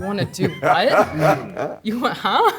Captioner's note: laughing